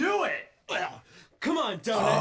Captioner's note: gags